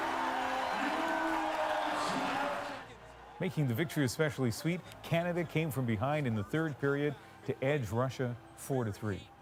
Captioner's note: cheers and Applause